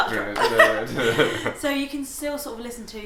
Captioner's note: laughs